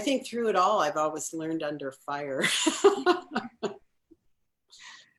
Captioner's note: laughs